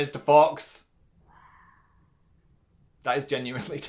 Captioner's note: screaming